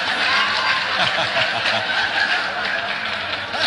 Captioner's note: host laughs